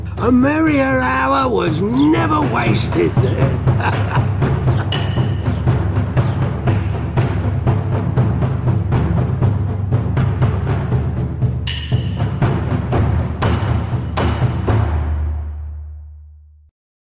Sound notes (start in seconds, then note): 3.4 laughs; 4.8 drumbeats